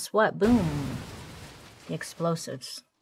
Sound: bomb exploding

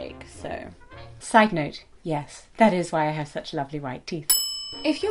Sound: ding

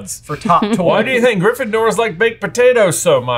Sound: laughing

